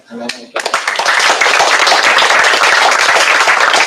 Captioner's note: applause